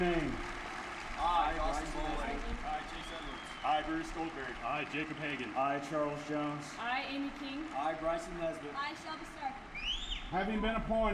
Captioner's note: cadets stating names